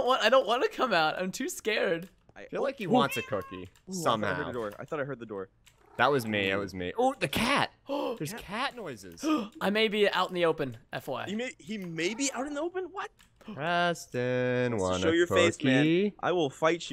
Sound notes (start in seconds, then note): 9.2 gasps